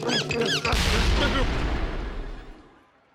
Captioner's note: explosion booms